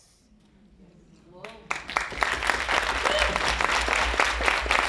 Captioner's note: audience applauding